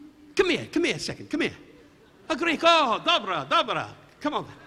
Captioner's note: Don speaking in Greek